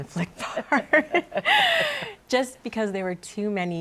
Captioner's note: laughter